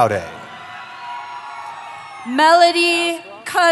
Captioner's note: cheering